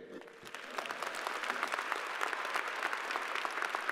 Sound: crowd applauding

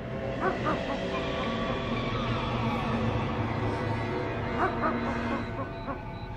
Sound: unsettling music; dog barking

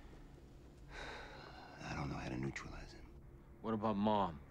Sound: sighing

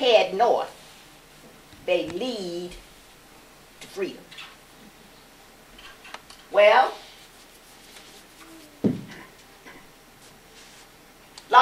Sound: giggles

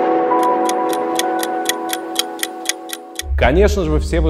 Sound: sound of the ticking clock

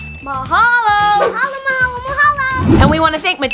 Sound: speaking foreign language

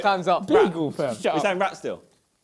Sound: crowd mumbling

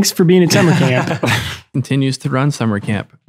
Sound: Father Angelus laughs

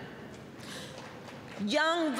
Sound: applause

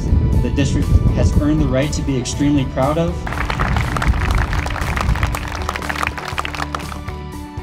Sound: applause

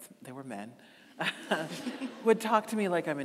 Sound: audience laughing

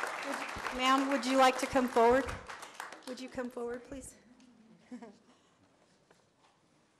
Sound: applause

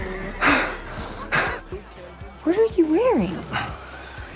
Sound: excited huff

